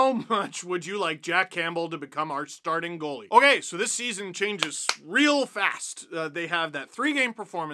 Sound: claps

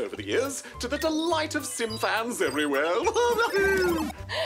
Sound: laughs

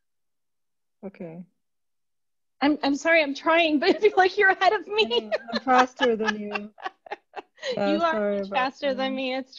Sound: laughter

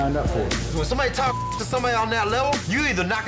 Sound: beep

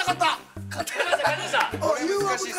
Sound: laughs

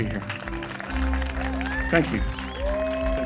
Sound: audience cheering

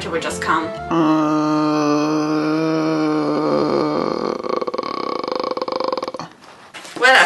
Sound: long dramatic groan because there's no snow

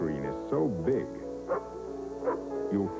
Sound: barks

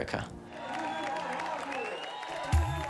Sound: crowd cheering and whistling; upbeat music playing

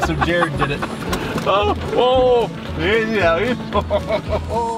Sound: men laughing

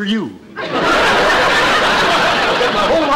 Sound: audience laughter

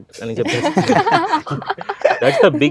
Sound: everybody laughs

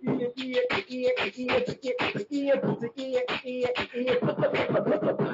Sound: beatbox percussion

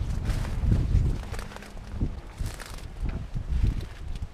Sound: sound of crushed turnips

